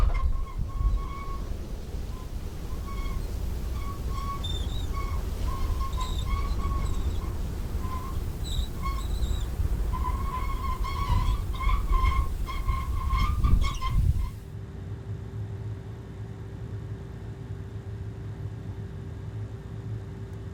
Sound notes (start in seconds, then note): 0.1 wind rustling; 4.3 wheelbarrow squeaking continues; 14.8 air conditioner humming